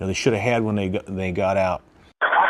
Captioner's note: voice Over Radio Call